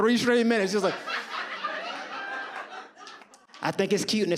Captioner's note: audience laughs